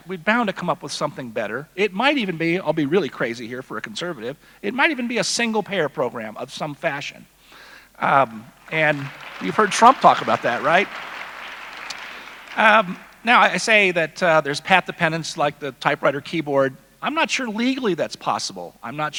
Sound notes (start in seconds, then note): 8.5 audience applauding